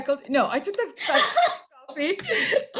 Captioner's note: laughs